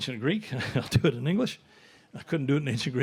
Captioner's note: chuckling